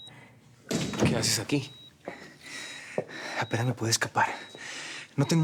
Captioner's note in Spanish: Bip en el monitor